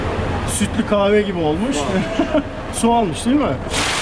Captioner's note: laughings